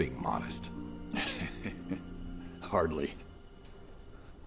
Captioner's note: laughing